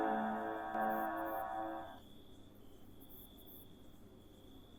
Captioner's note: crickets chirp